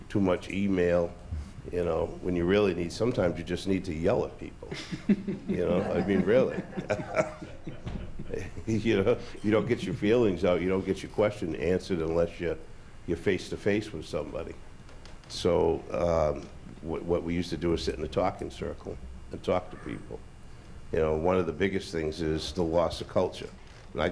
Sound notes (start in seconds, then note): 4.6 laughs; 4.7 laughter